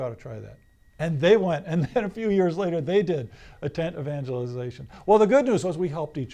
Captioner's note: laughs